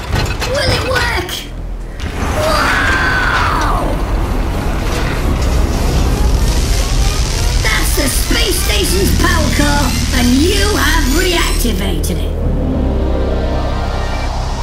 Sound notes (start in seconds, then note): 4.0 heavy mechanical gears and rising sounds; 12.0 electricity arcing and crackling